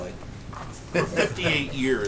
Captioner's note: laughter